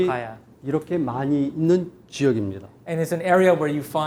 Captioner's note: speaking in Korean